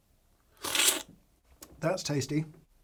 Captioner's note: slurps